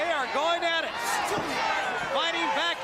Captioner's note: crowd chatter